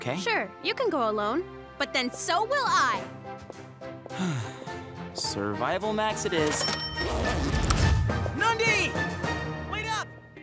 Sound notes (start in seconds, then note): 4.1 sighing; 6.4 register dinging